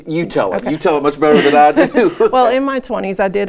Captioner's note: laughs